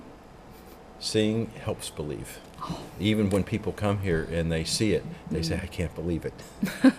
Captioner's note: laughs